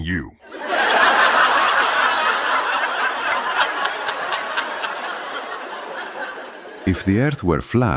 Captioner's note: audience Laughing